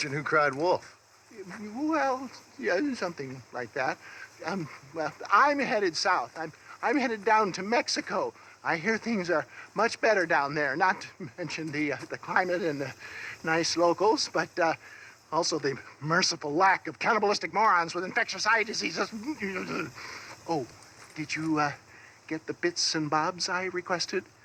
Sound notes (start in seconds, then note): 19.0 angry growl